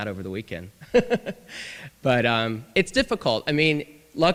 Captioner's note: laughter